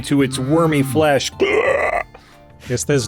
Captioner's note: pain-stricken horrible worm noises